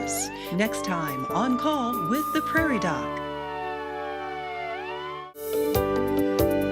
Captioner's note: siren